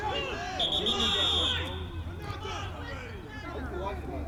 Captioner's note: whistle